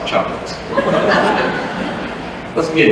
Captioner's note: laughter